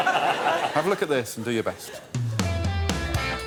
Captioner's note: laughter